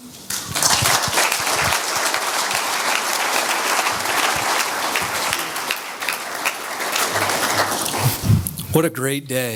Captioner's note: audience applause